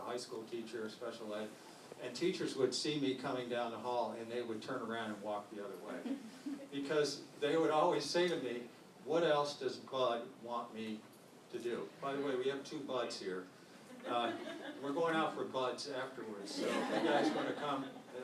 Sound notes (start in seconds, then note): 6.0 laughter; 13.9 laughter; 16.4 laughter